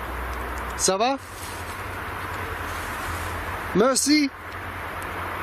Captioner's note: speaking in foreign language